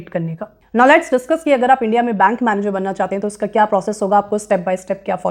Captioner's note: speaking hindi; speaking hindi